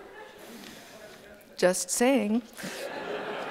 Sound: laughter

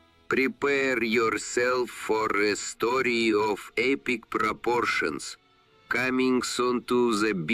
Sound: speaking with an accent

